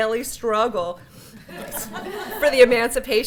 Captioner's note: laughter